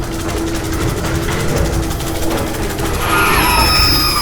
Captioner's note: magic hissing